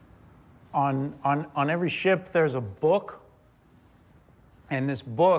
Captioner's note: none